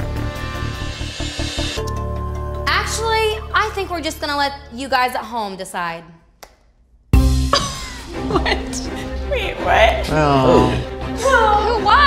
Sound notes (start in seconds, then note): 7.6 laughs